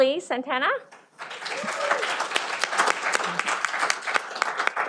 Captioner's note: cheering